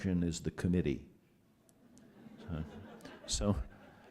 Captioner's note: laughter